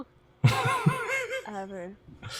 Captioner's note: laughs